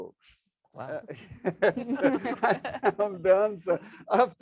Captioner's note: laughs